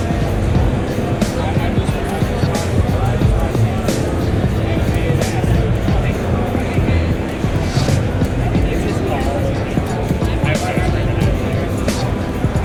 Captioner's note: crowd chattering